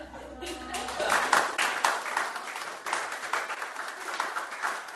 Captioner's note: laughter; applause